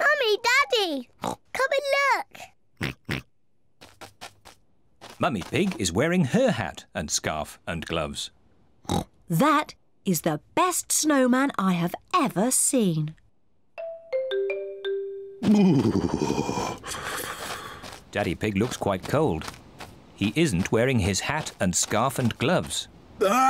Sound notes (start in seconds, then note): 1.2 snorts; 8.9 snorts; 15.5 shivers